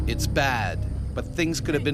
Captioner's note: voiceover